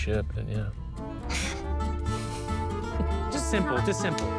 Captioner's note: chuckles